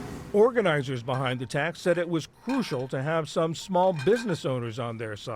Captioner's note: voice-over